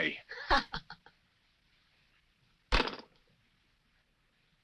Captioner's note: Linda chuckles